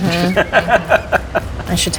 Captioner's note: laughing